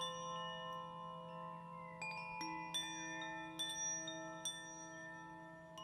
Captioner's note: gentle tinkling chimes